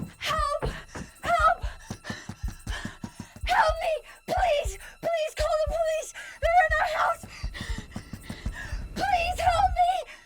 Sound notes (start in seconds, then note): 1.8 frantic pounding on door; 6.4 frantic pounding on door; 7.5 Tina gasping